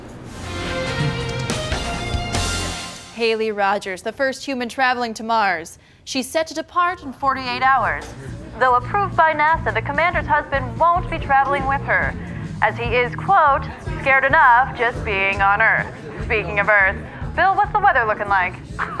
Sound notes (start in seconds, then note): 0.9 Paul laughs nervously; 18.6 laughs; 18.9 voiceover